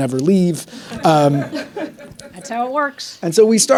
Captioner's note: audience laughing